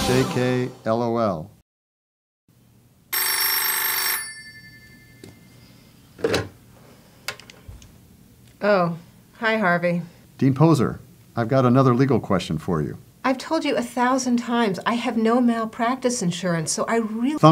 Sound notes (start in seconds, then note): 1.5 phone rings